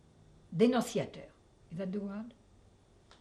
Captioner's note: french